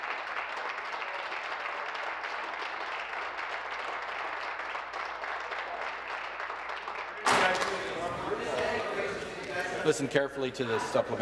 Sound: applause

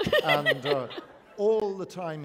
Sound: laughter

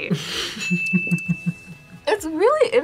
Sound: laughs

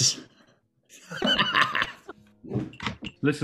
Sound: laughing

